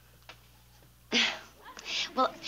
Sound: giggling nervously

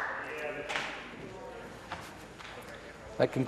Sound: some Applause

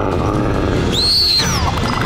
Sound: growling; screaming

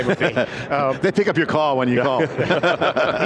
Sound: laughs

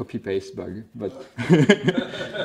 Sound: laughter

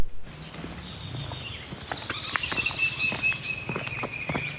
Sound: birds tweeting

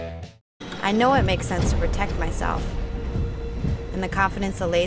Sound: voiceover

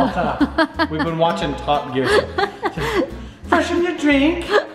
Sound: laughing

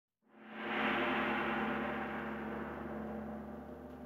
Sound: gong crashing

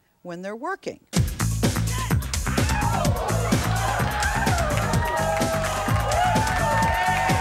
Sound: low techno music; audience cheers

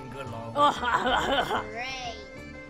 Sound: crazy, Weird, Evil Laugh

